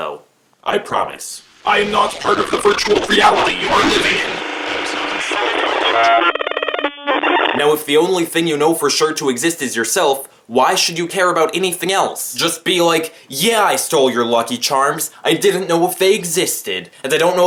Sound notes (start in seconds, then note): 0.1 robot voice; 5.7 malfunctioning sounds